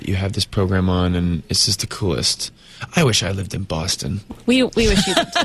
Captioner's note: Uzo laughs; laughs